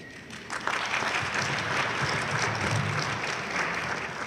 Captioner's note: audience applauding loudly